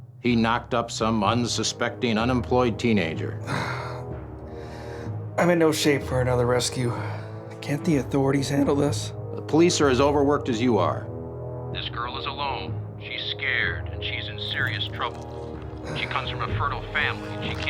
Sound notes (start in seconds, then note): 3.4 grunts; 9.5 voiceover